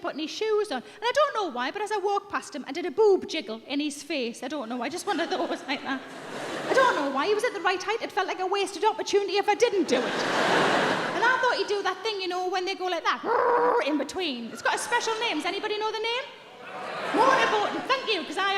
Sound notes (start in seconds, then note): 13.8 shouting